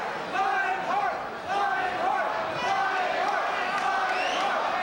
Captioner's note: crowd chanting